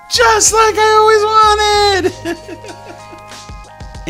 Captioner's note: chuckles